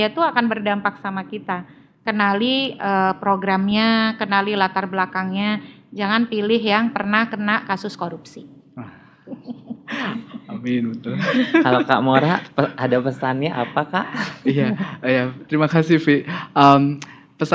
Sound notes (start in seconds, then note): 9.3 laugh